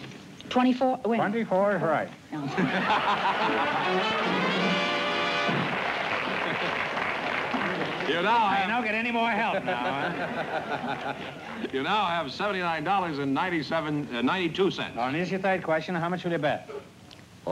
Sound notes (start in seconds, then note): 0.0 whispering; 2.4 laughter